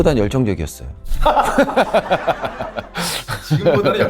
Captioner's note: laughs